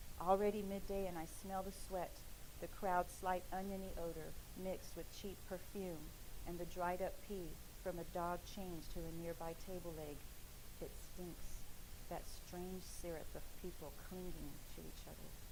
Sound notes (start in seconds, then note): none